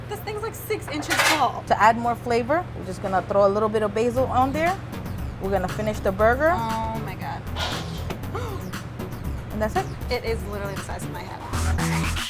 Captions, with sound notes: This thing's like six inches tall. - To add more flavor, we're just gonna put a little bit of basil on there, we're gonna finish the burger. - Oh my god. (gasps) - And that's it. - It is literally the size of my head.